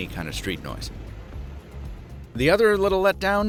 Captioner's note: truck engine rumbling